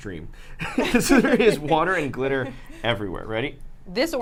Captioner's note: group laughs